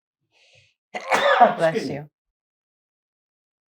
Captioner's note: sneezing